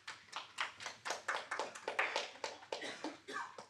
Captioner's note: audience applauding